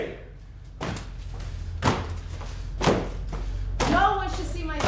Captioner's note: stomping